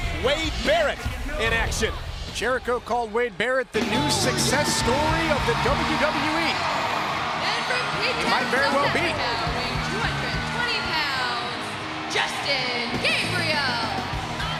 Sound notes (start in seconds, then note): 8.6 crowd cheering